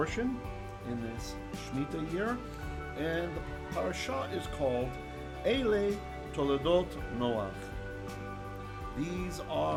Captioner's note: Hebrew